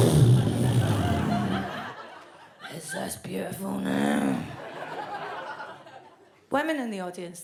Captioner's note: blows a raspberry